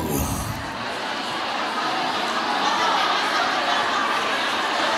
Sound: audience chattering

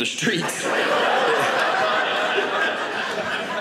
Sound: audience laughing

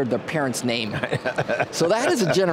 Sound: loughs loudly

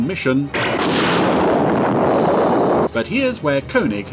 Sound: loud explosion

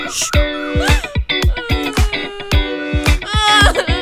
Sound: Sneha crying

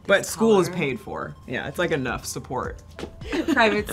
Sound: laughs

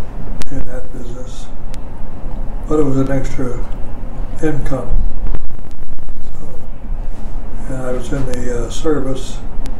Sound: microphone noise

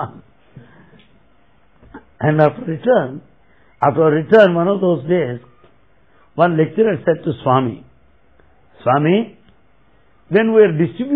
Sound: laughter

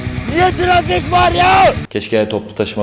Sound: austenitic scream

